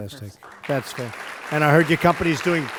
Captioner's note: applause